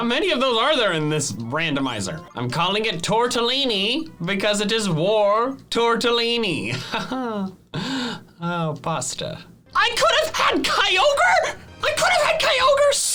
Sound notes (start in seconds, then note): 6.7 laughs